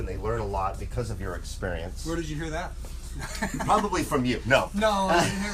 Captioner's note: laughs